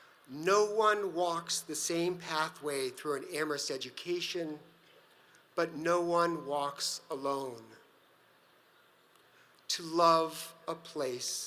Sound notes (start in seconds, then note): none